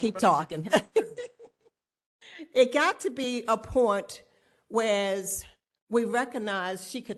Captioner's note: laughter